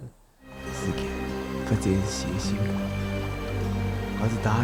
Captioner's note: northeastern dialect